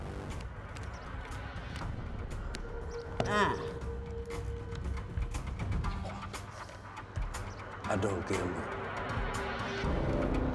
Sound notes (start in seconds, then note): 5.9 chuckles